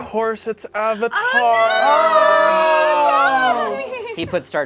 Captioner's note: group exclaims